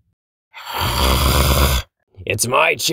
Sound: growling

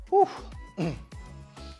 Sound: clears throat

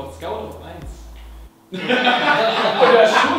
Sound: laughter

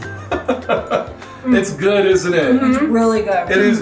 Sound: laughing

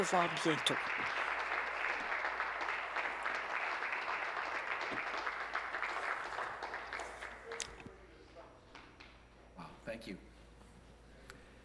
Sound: applause

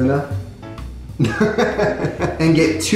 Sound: laughing

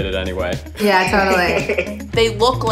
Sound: laughing

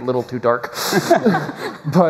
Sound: laughter

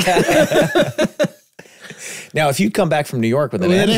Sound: group laughing

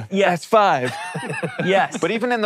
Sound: laughs

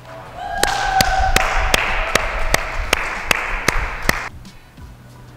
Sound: cheering and clapping

